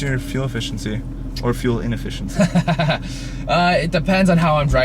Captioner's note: laughs